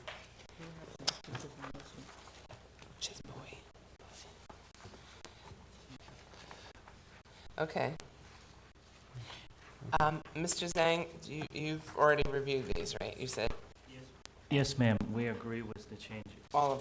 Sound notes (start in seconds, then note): 0.4 board discussing quietly